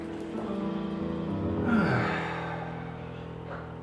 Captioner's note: sighs